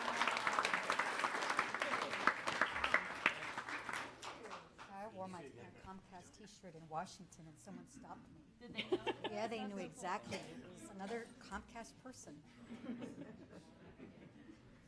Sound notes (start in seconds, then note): 0.0 applause; 4.3 people conversing